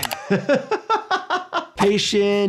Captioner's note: laughs